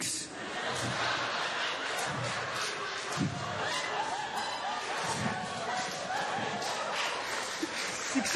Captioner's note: laughter, applause